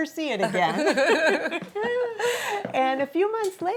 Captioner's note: laughing